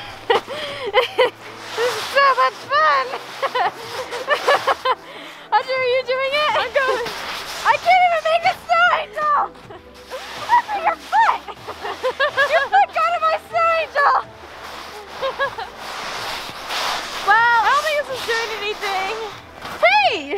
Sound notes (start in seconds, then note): 0.1 giggles; 2.8 giggles